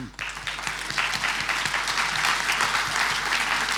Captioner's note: clapping